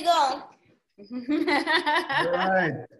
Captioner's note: laughing